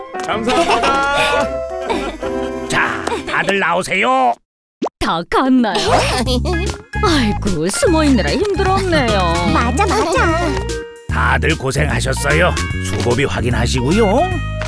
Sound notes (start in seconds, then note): 0.3 both parents laugh